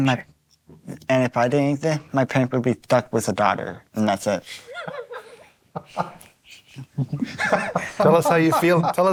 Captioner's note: laughter